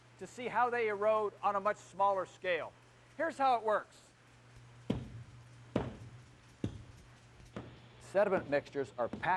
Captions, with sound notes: to see how they erode on a much smaller scale. Here's how it works. [ Pounding ] Sediment mixtures are packed